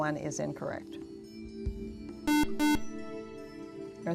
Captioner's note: buzzer